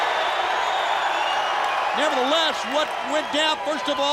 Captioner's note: crowd cheering